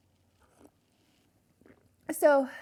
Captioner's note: gulps; sips